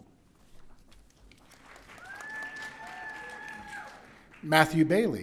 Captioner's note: audience cheering